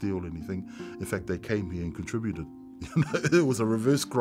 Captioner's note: chuckles